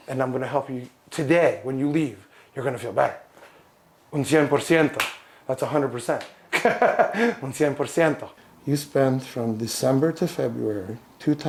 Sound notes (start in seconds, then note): 4.1 speaks in a foreign language